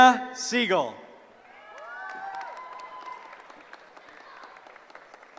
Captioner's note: cheering